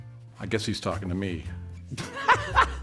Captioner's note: laughter